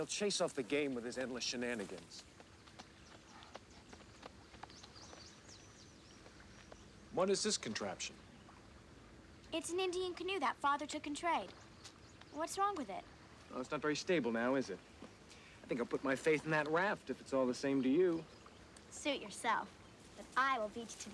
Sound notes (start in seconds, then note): 3.0 birds chirping